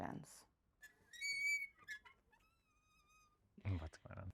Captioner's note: monitor stand squealing